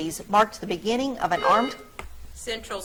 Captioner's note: buzzer trills